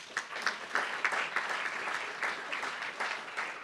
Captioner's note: applauds